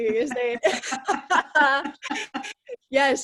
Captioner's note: laughs